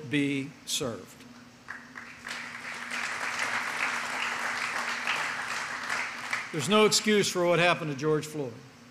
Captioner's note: applause